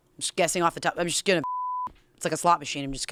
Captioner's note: beep